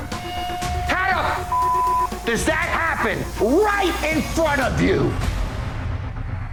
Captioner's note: beep